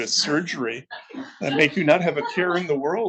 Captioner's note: attendees laughing